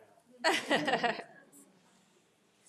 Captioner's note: board members laughing